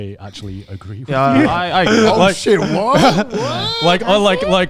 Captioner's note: all laughing